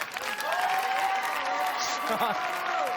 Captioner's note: cheers and applause